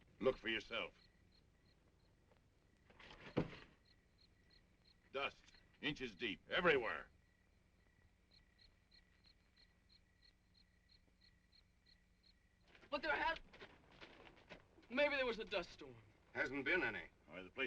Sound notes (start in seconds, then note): 1.8 insects chirping; 8.0 insects chirping